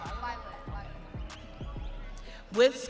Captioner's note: audience cheering